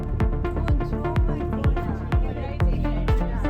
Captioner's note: indistinct chattering